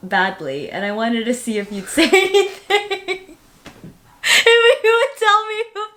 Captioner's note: laughing